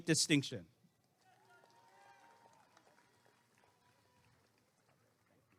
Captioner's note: applause and cheering